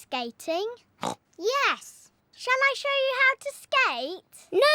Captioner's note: snorts